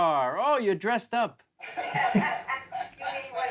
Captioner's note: laughing